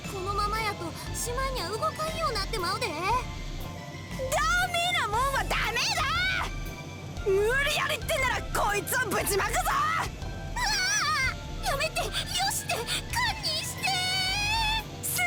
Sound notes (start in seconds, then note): 10.6 far-off panicking